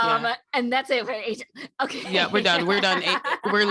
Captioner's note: laughter